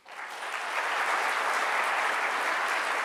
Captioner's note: applause